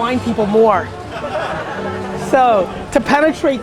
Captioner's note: group laughter